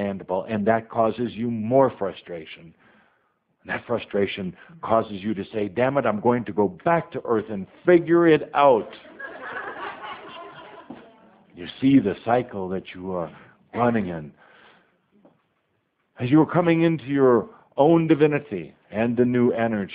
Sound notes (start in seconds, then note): 8.7 audience laughter